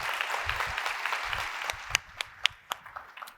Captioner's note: applause